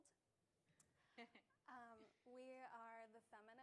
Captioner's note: laughs